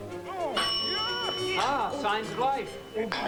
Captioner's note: bell rings